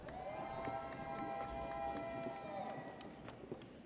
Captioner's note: audience cheers